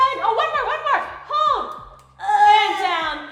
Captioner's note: groaning